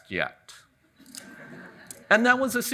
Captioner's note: audience chuckles